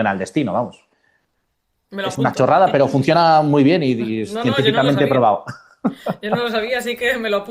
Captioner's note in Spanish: risas